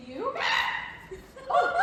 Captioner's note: scream